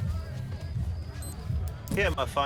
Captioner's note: pen beeps